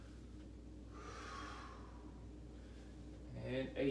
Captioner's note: breaths heavily